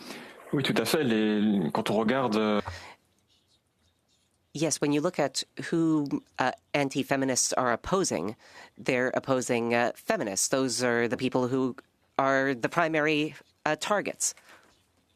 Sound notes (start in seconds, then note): 3.5 speaking French